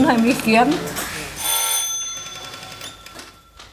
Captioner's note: rattling ringing